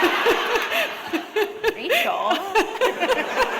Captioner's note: laughter